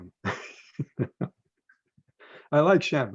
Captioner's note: laughs